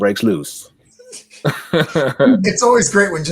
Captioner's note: all laughing